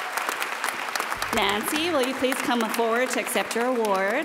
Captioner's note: applause